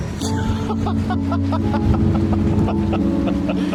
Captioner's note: laughs